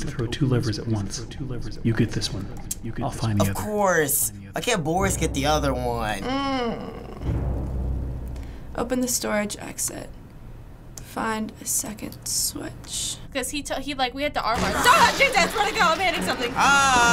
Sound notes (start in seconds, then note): 5.5 groans